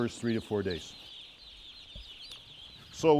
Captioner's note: chicks chirping